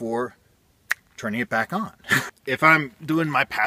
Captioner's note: chuckle